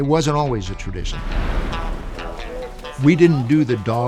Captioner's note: scene swooshing; upbeat music continues